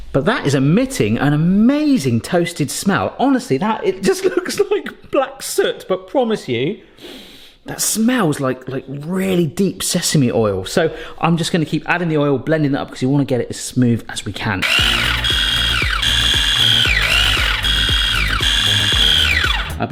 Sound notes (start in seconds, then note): 7.0 sniffs